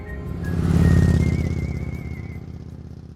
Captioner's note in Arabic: محرك دراجة نارية هدير